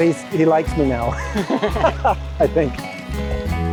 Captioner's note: both laugh